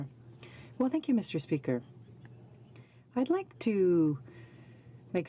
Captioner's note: speaking French